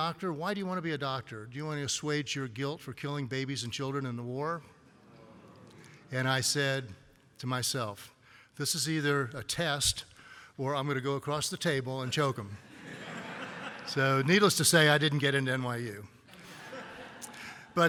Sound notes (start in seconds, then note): 12.6 laughter; 16.3 laughter